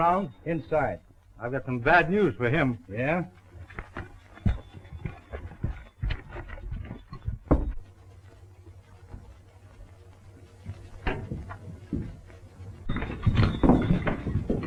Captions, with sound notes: -Inside. -I've got some bad news for him. -Yeah? [knock]